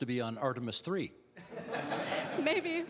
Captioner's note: audience laughing